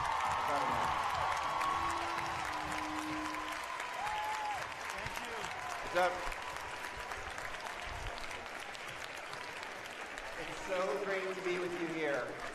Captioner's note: cheers and applause